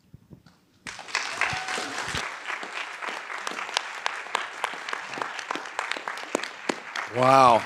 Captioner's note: audience applauding and cheering